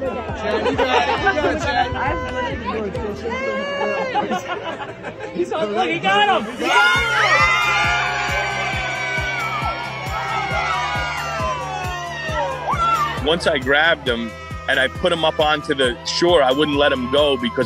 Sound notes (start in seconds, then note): 0.0 people laughing; 1.7 woman cheering